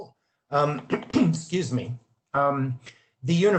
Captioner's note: coughs